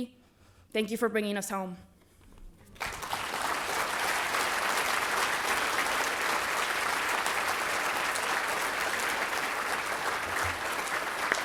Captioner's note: applause